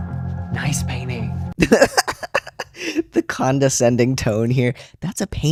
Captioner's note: laughter